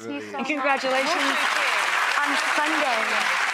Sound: applause

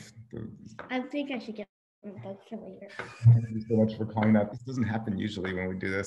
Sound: crackling drowns out

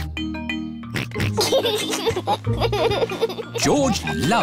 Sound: oinks and laughs

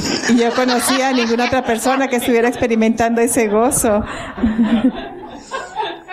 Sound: laughter

